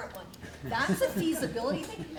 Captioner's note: audience laugh